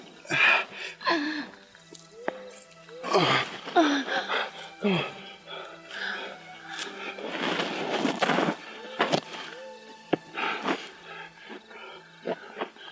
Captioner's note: breathing, struggling